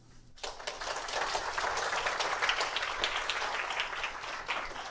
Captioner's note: applause